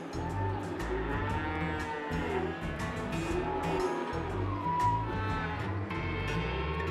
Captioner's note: mooing